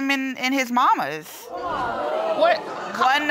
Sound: audience gasping

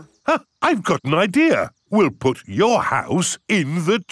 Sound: gasps

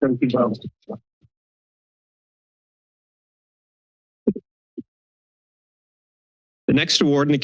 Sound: silence

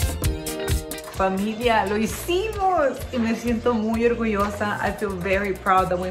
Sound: speaks in foreign language

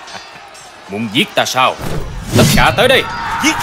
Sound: laughing

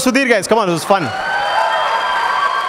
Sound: crowd cheers loudly

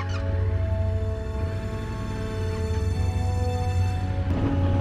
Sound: engine revving

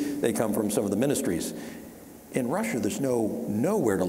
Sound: none

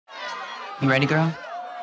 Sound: chatter

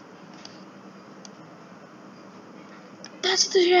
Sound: silence

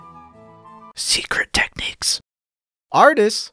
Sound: whispers

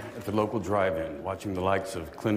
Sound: applause

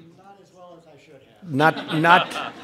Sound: laughter

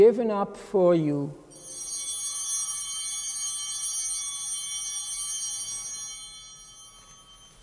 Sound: chimes ringing

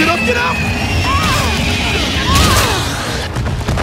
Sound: gunshots

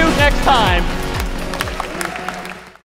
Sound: applause

